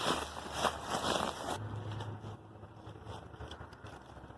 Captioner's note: bush rustling